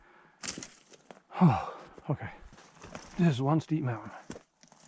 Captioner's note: sigh